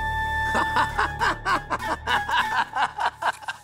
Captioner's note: laughing